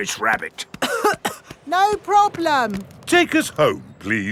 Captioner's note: coughing